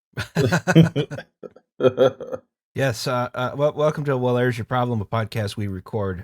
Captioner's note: laughter